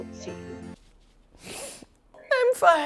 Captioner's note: sniffle